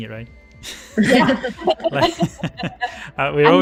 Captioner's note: laughter